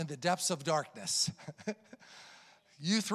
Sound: chuckles

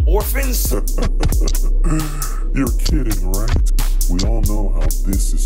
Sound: laughs

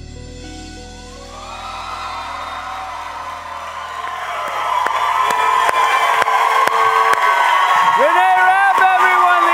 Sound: audience applause

